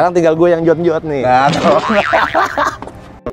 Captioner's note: laughter